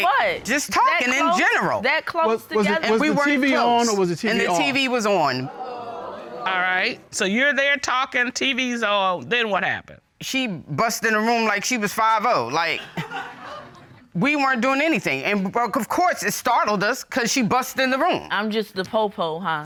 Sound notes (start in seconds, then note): 4.2 audience exclaims; 12.7 audience laughs